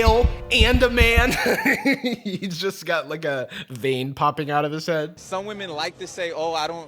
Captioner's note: laughs